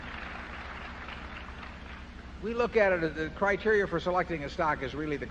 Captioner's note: applause